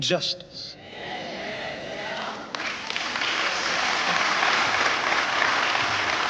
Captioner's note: crowd murmurs in agreement; applause